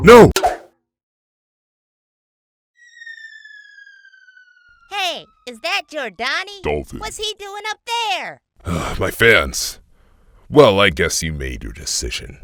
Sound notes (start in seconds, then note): 8.8 sigh